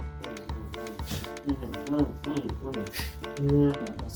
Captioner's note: thoughtful hmmm-ing